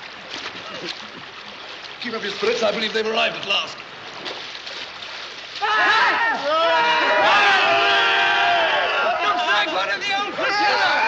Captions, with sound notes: Keep up your spirits. I believe they've arrived at last. (All shout) Looks like one of the old flotilla.